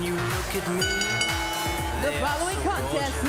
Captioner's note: bell ringing